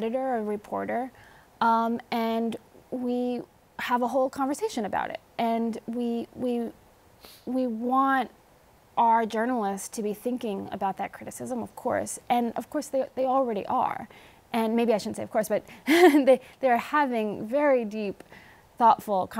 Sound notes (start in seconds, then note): 15.8 laughs